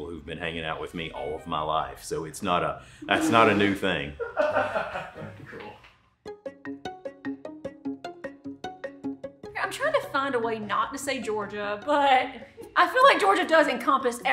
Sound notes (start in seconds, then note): 3.0 laughs; 6.2 giddy music